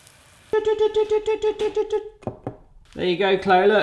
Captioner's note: imitates beeping